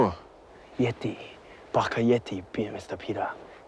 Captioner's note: non-english speech